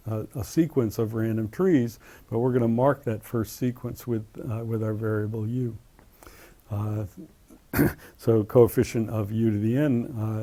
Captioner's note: cough